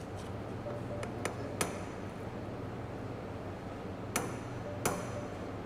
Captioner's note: mallet tapping